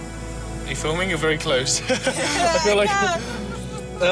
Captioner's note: laughter